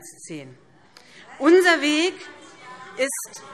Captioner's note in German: Zurufe SPD